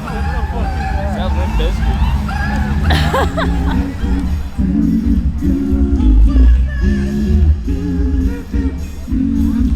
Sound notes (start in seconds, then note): 2.8 laughs